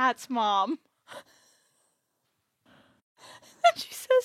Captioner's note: laughs